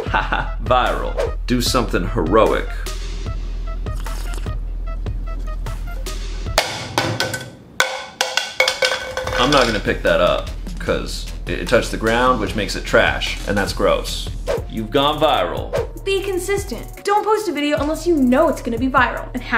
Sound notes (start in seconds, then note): 3.8 sips; 7.7 cup clatters